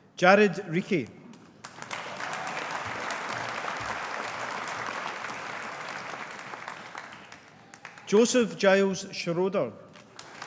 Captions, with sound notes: Jared Reekie. (AUDIENCE APPLAUDING) Joseph Giles Schroeder.